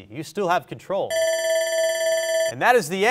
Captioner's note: bell rings